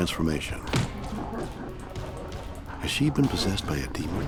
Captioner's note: deep distorted voice laughs; body thuds